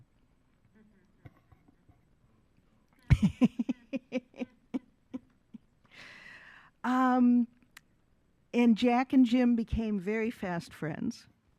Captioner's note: laughs